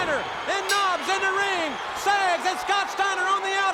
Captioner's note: bell tings